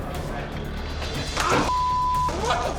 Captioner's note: grunting